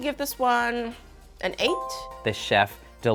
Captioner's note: bell dings